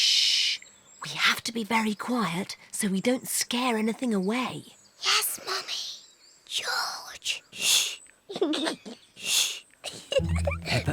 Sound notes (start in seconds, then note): 4.9 whispers; 9.8 giggles